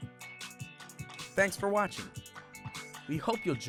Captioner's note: voiceover